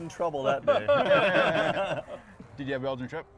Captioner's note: group laughs